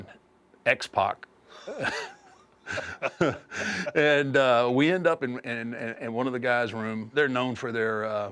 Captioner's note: laugh